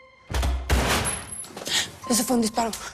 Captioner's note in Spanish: Disparo